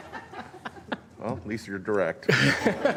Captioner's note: laughter